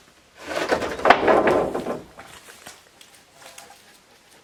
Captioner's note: board clunking